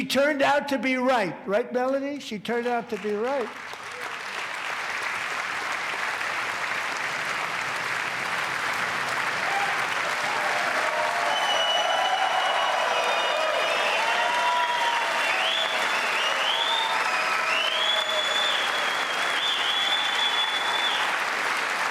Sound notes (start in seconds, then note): 14.5 applause; 18.5 cheers and applause